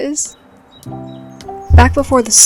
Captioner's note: bird calls